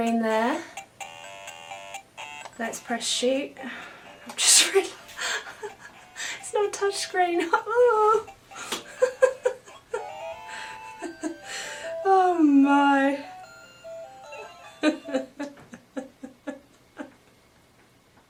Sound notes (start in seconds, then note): 4.8 laughing; 4.8 laughs; 9.1 laughing; 14.3 laughing